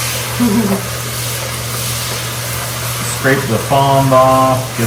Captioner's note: hehehe